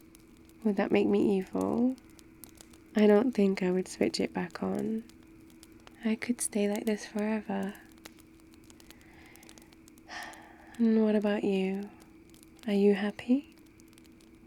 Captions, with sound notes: would that make me evil? I don't think I would switch it back on I could stay like this forever *sighs* and what about you... are you happy?